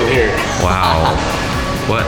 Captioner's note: laughing